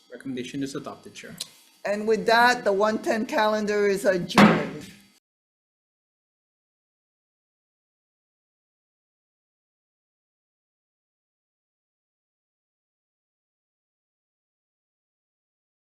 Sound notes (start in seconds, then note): 4.3 gavel banging